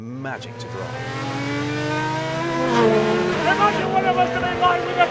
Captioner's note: engine roaring